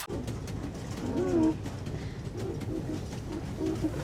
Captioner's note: squeaking